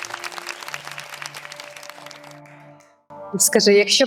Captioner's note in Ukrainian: оплески